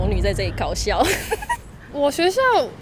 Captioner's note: laughs in low self-esteem